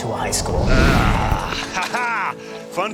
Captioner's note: whoosh